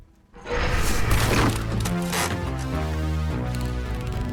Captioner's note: cracking wood